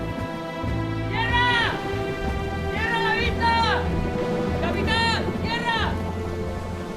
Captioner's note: man screaming